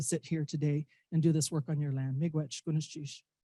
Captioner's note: speaking indigenous language